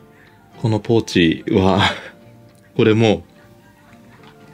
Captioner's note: laughs